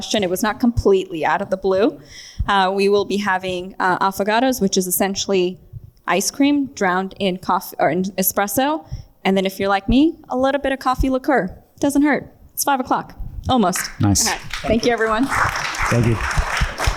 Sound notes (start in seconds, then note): 13.7 audience claps